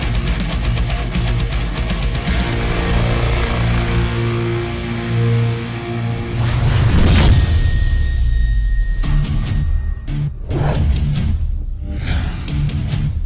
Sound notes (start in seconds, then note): 6.2 explosion bangs; 9.8 upbeat music